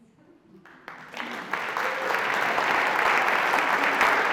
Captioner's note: audience applauds